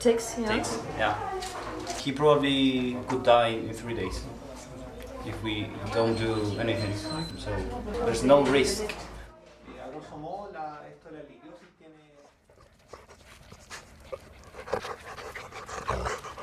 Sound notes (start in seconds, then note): 9.9 speaking in a foreign language; 12.2 dog panting